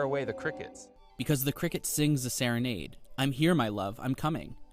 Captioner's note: through translator